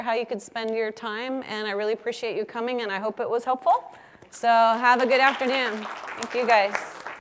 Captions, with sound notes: how you could spend your time, and I really appreciate you coming. And I hope it was helpful. So have a good afternoon. >> [APPLAUSE] >> Thank you guys.